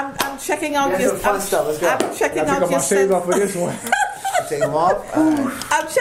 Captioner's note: laughing